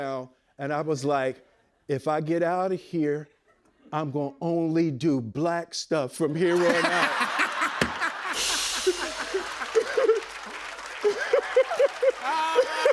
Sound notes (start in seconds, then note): 8.2 cymbal crash; 10.0 cheers and applause